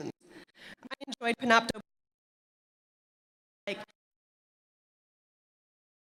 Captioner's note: audio cuts out